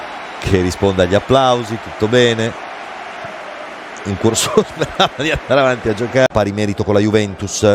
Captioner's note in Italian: risate